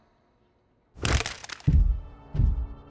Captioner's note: gun firing